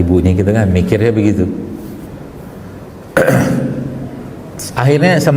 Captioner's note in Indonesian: berdehem